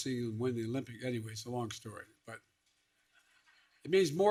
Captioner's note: laughter